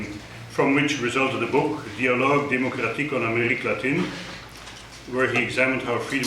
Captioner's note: speaking foreign language